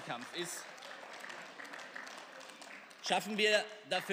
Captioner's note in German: Beifall